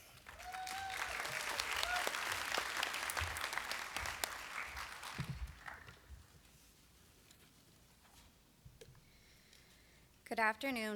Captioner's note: applause